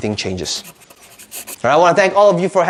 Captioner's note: scratching